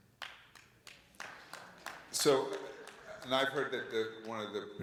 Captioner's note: audience members clapping